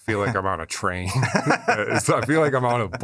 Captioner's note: laughter